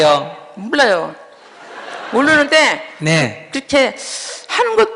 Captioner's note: audience Laughter